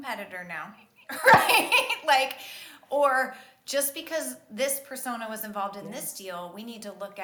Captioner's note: laughs